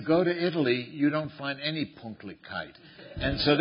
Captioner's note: non-english